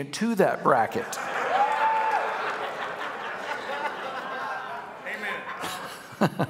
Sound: congregation cheering and laughing

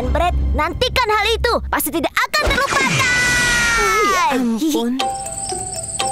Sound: chuckles; chiming music

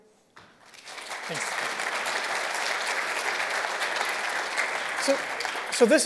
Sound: applause

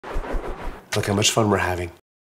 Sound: air whooshing

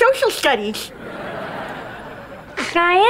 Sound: laughing

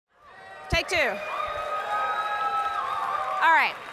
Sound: audience cheering

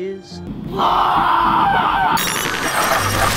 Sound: screaming

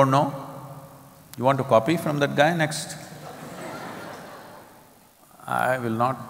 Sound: laughter

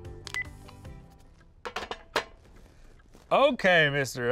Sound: phone beeps

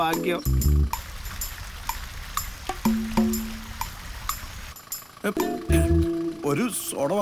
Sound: water Sound

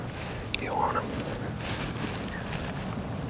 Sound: whispering

